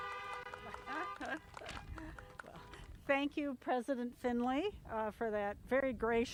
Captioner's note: laugh